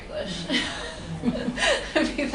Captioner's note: laughter